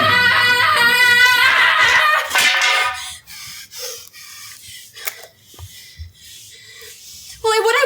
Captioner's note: yelling